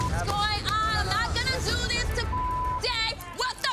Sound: beep; beep

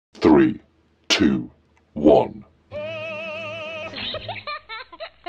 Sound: laughter

